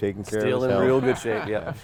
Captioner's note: camera men laugh